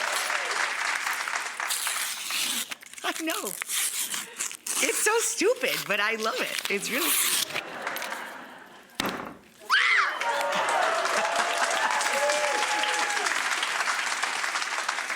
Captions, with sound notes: (audience applauding) I know. It's so stupid, but I love it. It's really- (audience laughing) (biscuits banging) (Rachael squealing) (audience applauding and cheering)